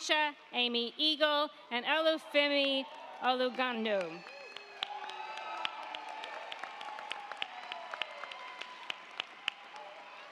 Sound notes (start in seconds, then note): 4.2 crowd cheering; 4.2 crowd clapping